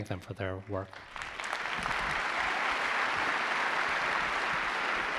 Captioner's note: audience applause